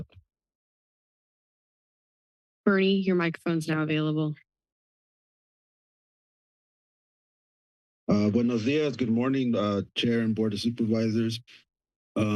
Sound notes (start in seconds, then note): 4.5 silence